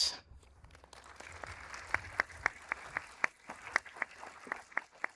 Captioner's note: everyone applauding